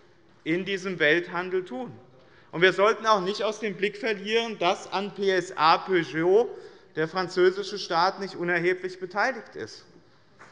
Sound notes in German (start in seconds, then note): none